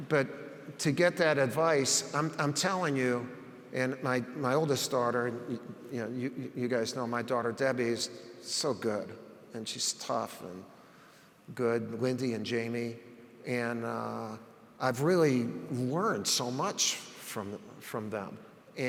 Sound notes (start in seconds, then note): none